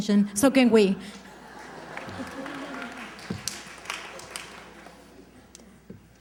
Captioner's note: applause